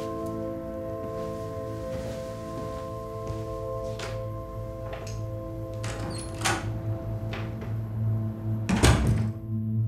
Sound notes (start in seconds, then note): 5.7 door opens and closes